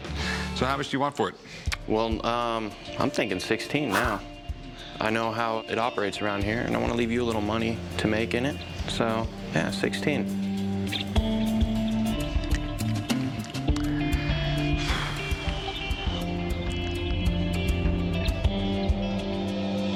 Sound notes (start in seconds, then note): 12.1 clicking tongue; 14.8 deep exhale